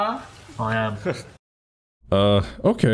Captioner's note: chuckles